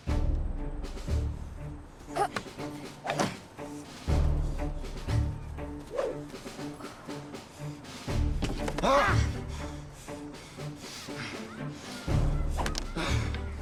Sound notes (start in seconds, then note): 0.3 dramatic music; 2.1 boys grunting; 2.7 swords thudding